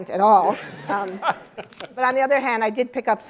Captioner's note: laughter